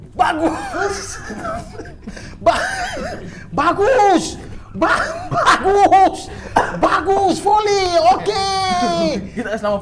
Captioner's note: giggling